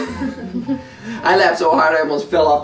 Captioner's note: everyone laughing